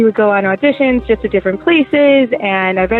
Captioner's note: none